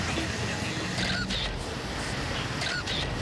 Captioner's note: camera shutter clicking